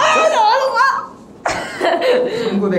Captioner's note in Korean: 웃음